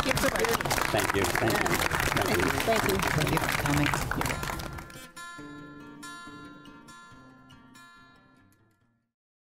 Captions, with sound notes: Thank you. (APPLAUSE) Thank you. Thank you. Thank you. Thank you for coming.